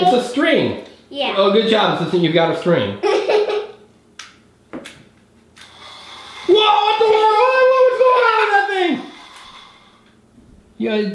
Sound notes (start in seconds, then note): 3.0 laughing